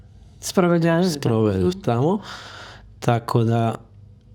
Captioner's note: sigh